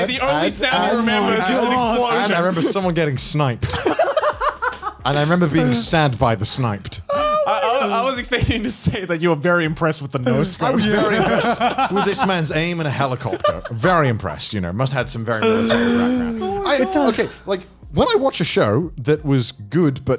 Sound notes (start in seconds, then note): 3.6 laughs